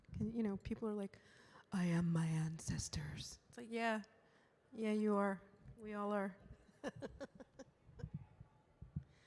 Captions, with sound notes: You know, people are like, "I am my ancestors." It's like, yeah, yeah, you are, we all are. (laughs)